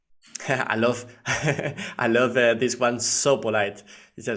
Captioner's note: laughing